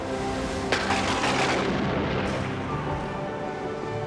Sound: thunder booms

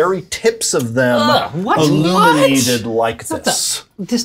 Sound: yuck noises

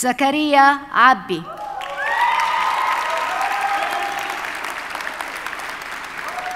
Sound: audience cheers and applauds

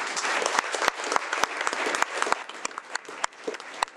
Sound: audience clapping

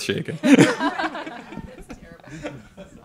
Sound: all laughing

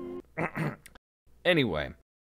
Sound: clears throat

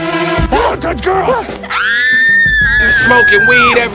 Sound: screaming

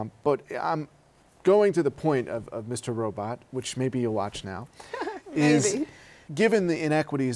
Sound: laughter

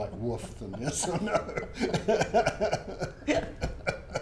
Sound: laughs

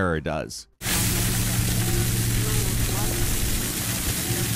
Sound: water rumbling

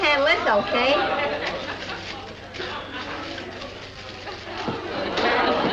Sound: audience laughs

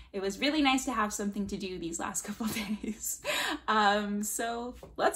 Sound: laughter

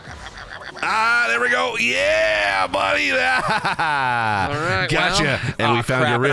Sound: laughs

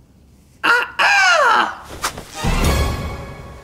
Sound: makes peacock call

